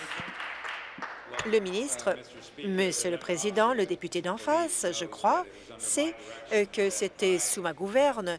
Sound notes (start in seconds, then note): 2.2 applause